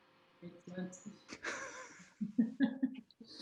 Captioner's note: laughs